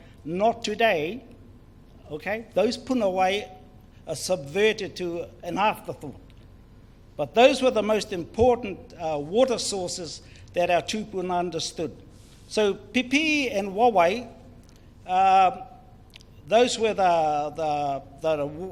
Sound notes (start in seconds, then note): 0.0 foreign Language; 2.9 foreign Language; 5.7 foreign Language; 11.0 foreign Language